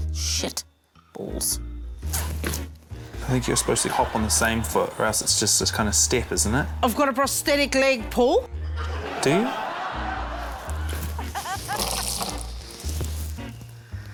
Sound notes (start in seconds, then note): 8.6 laughter; 11.2 quirky music